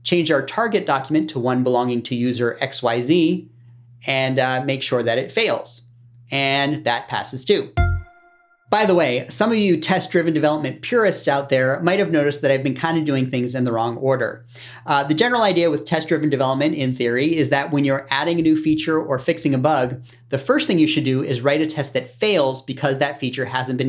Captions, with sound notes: change our target document to one belonging to user_xyz, and make sure that it fails. And that passes to. [SOUND EFFECT] By the way, some of you test-driven development purists out there might have noticed that I've been kind of doing things in the wrong order. The general idea with test-driven development, in theory, is that when you're adding a new feature or fixing a bug, the first thing you should do is write a test that fails because that feature hasn't